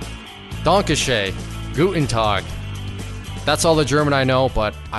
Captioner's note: speaking foreign language